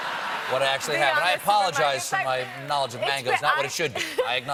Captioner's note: laughter